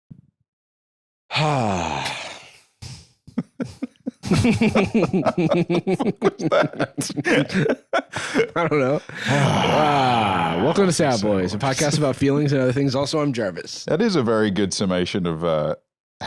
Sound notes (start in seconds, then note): 1.3 Jarvis sighs; 3.3 laughing; 9.0 sighs